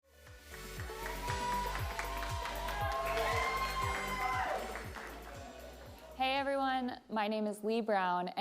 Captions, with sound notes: (upbeat music) (audience cheering) - Hey everyone, my name is Leigh Brown